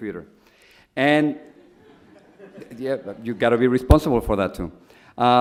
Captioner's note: audience laughs